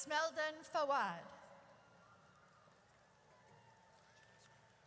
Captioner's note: audience cheers